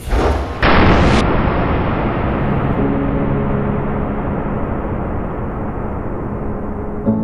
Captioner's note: gun whooshing; whooshing; light dramatic music